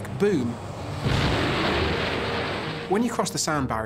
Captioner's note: loud boom